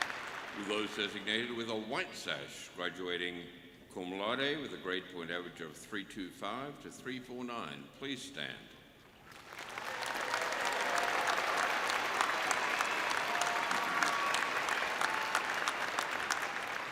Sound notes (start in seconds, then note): 2.1 applause; 9.2 applause